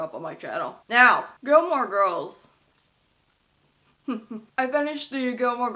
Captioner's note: giggles